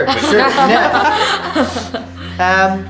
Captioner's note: laughter